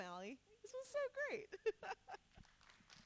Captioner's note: laughing; audience applauding